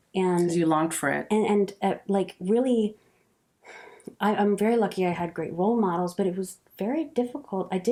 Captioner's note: sigh